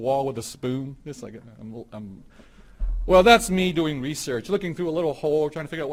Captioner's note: stammers